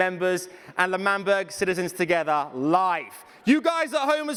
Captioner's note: cheering